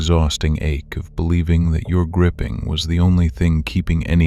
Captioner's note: tender, reassuring